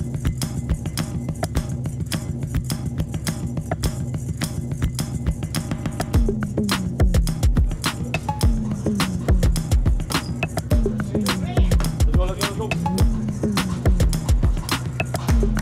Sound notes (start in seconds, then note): 6.6 upbeat music; 10.8 murmurs